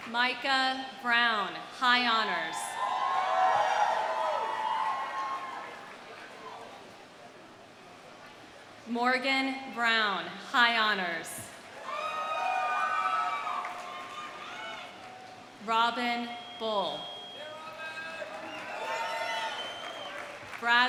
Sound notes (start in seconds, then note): 2.6 audience cheering; 2.8 audience applauding; 11.7 audience applauding; 11.7 audience cheering; 18.9 audience applauds; 18.9 audience cheers